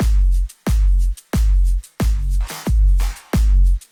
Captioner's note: none